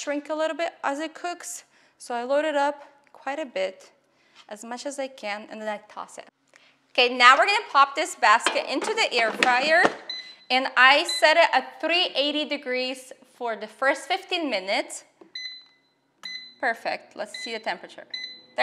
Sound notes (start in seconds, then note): 15.3 beeping